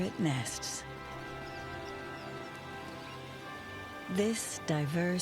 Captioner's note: birds chirping